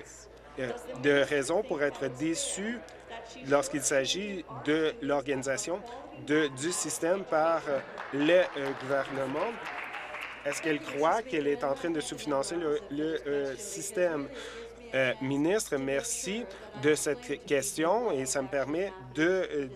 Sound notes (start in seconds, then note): 10.7 applause